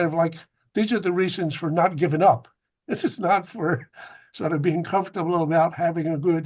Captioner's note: laughs